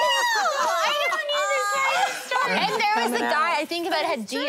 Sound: laughter

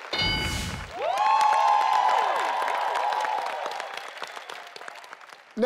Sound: bell dings; family cheering

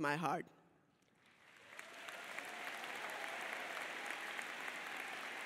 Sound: audience cheers and applauds

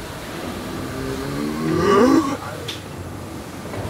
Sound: groaning

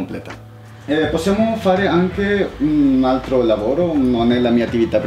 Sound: in Italian

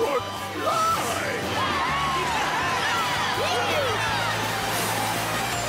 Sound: cheering

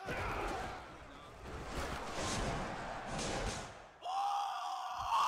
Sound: yelling and clattering; screaming

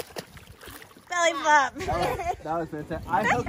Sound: laughs

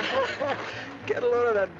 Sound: laughing

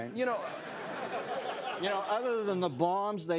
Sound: laughter

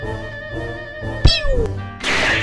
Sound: pew!

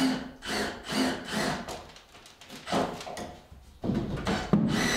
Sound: drill grinding loudly

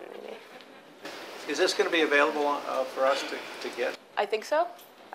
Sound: voiceover

